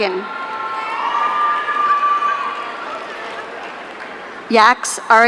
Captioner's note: audience cheering